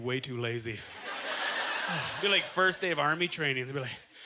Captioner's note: audience laughter